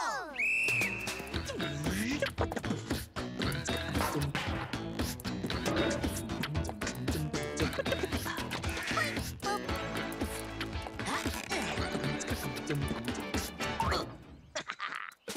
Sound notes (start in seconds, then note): 0.3 whistle blowing; 3.2 rhythmic music; 10.9 grunting; 14.4 laughing